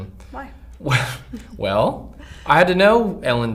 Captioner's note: scoffs